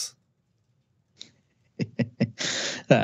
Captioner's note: laughing